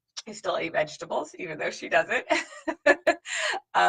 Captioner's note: laughs